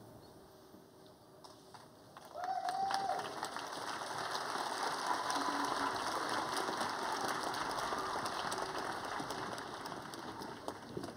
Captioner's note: applause